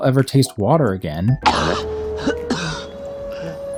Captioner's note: Sokka from "Avatar: The Last Airbender" coughing